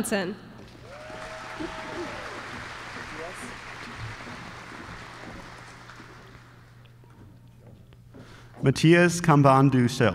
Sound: applause

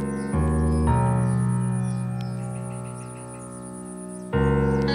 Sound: birds chirping

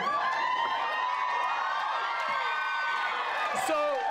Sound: cheering

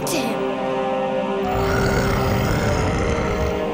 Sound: grunting

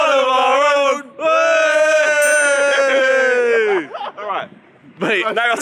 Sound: all shouting

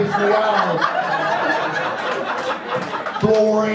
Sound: audience laughs

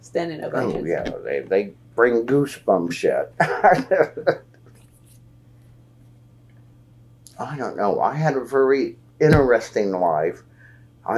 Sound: laughs

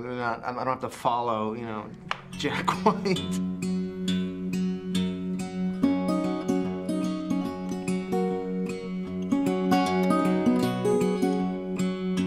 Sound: laughs

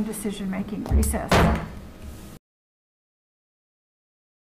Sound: gavel bangs

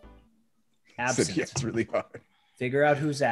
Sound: laugh

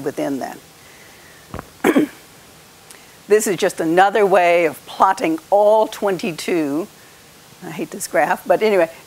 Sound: cough

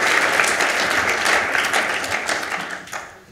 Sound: applause

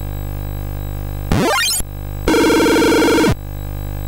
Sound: inarticulate console sound effects

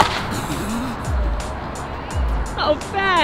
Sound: laughing

